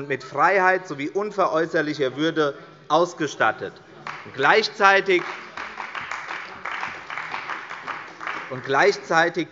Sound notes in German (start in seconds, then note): 4.0 Beifall bei der CDU